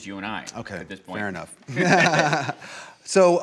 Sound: laughs

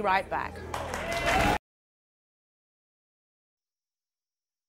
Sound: audience applauding

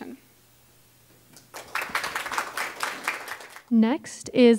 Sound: applause

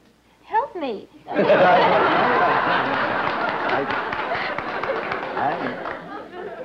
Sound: laughter

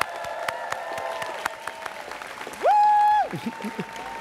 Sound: students cheering

